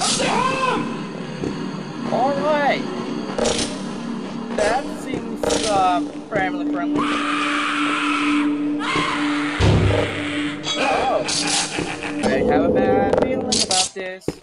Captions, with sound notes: Alright That Seems Uh..Family Friendly [Screaming] Oh [ In Game Laughter] I have a bad feeling about this.